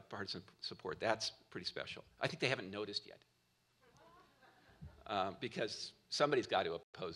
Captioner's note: laughter